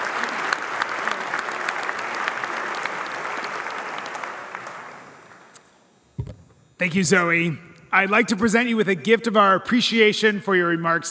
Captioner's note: applause